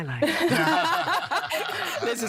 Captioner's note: all laughing